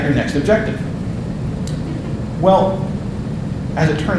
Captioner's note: audience laughing